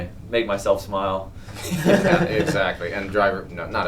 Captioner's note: both laugh